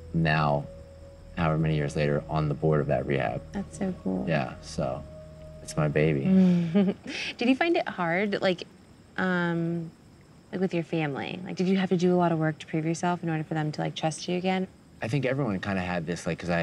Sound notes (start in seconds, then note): 6.3 laughs